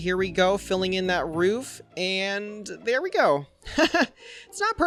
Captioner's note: laughs